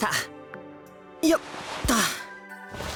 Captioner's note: lying grunt